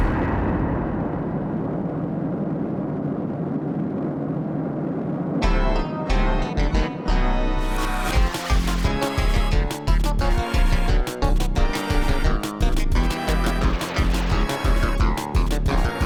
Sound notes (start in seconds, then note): 0.0 air whooshing; 5.4 creepy carnival music